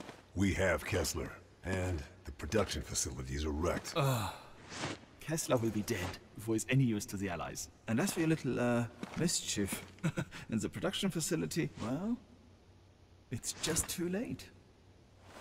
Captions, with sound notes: We have Kessler and the production facilities are wrecked. [SIGH] Kessler will be dead before he's any use to the Allies. And as for your little, erm, uh, mischief - [LAUGHS] - in the production facility, well... It's just too late.